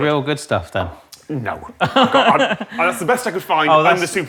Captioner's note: laughs